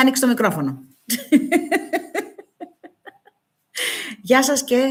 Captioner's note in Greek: γέλια